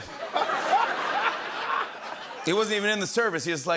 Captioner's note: laughter